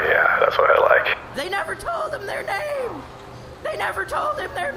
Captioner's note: borderline shrieking